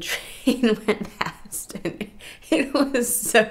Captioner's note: laughing